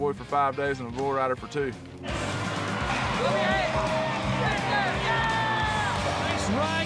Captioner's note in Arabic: صراخ الحشد